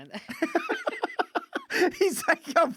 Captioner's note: laughing